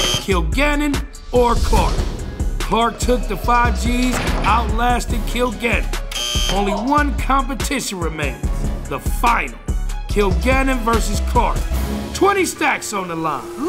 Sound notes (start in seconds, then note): 6.1 buzzer